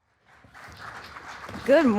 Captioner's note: audience applauding